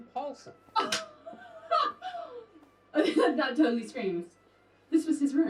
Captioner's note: laughs